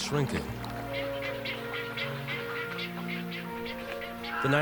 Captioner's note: birds cawing